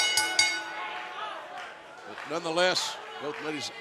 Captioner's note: bell ringing